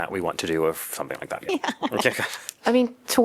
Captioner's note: laughter